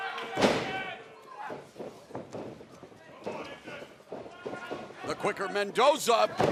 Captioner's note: crowd chatter